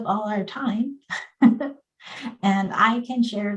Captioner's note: chuckles